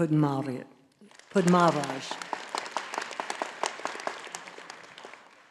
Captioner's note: audience applauding